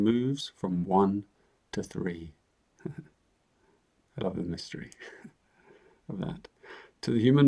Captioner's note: chuckles